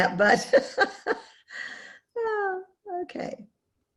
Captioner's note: laughs